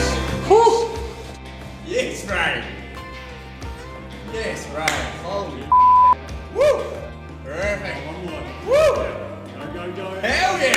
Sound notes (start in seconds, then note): 5.7 beep